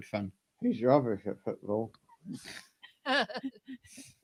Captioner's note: laughter